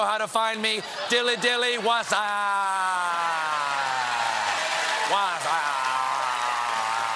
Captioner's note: cheers and applause